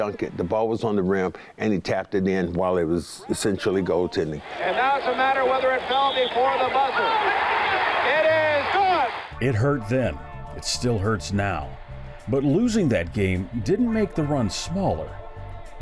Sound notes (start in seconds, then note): 7.4 crowd cheers